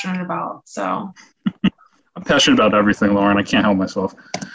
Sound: laughs

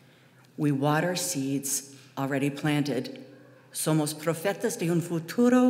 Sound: speaking foreign language

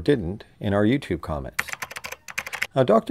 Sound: typing

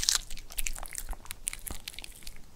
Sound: swallows

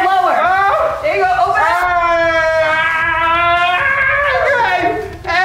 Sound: shouts

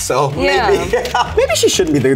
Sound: laughs

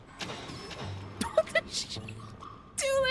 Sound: laughing

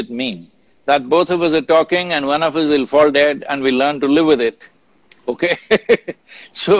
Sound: laughs

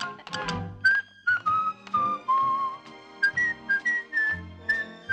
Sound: whistling

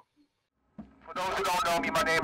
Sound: on megahpone

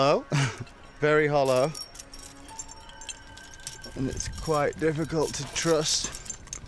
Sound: chuckling

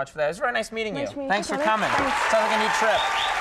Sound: audience applauds

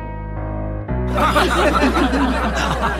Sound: crowd laughing

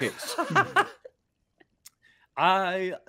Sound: laughing

